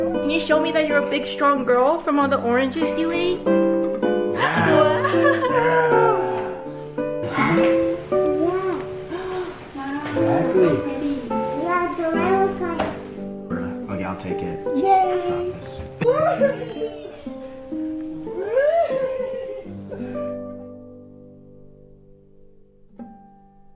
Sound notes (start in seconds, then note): 4.3 gasps; 15.6 cheering and laughing